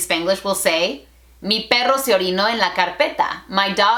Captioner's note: Spanglish